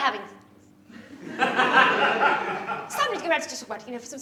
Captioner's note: laughter